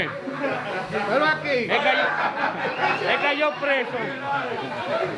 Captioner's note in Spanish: gente hablando